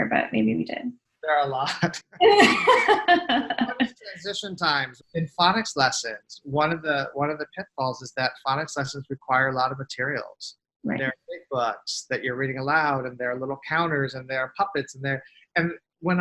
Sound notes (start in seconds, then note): 2.3 host laughs